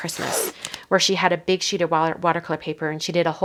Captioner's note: tape ripping